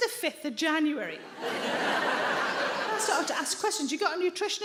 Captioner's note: audience laughs